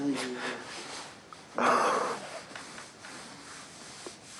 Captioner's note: sobs softly